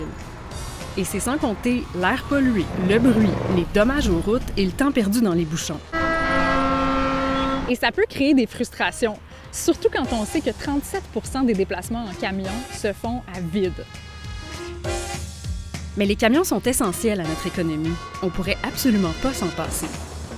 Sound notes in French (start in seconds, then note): 5.9 coups de klaxon